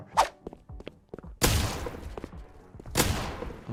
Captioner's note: gunshot exploding